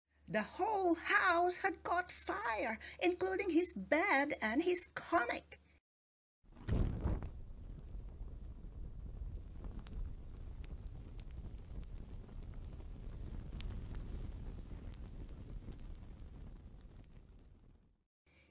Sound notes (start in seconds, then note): 6.5 crackling fire